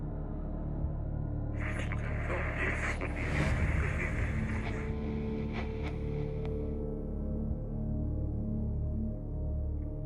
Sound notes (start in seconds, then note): 1.6 radio static crackling; 5.1 ominous music